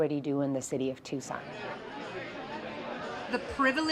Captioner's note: crowd chattering